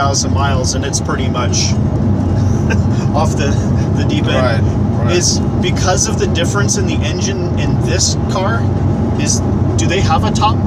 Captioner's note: laughs